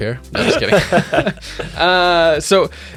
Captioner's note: both laugh